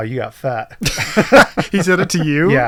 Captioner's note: laughing